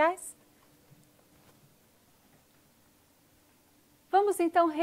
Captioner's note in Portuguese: silêncio